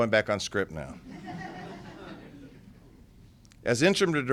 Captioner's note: laughter